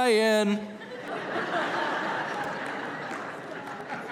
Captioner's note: laughter